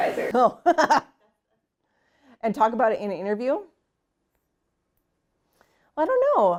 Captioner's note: laughs